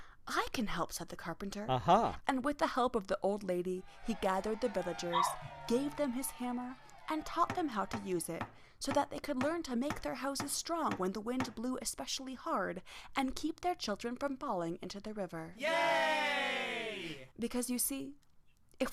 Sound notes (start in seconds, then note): 3.8 people cheering; 9.7 hammer tapping; 15.5 people cheering